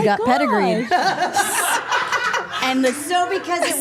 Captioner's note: group laughing